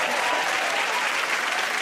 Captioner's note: cheers and applause